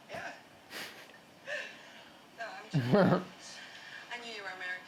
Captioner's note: laughing